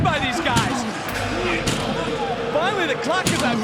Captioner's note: gong rings